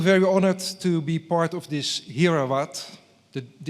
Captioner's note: speaks foreign language